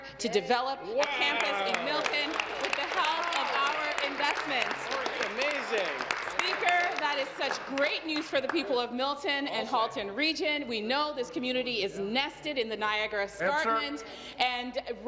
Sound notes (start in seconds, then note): 7.1 applause